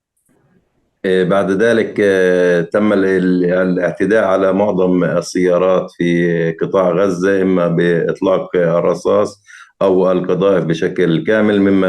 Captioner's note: speaking arabic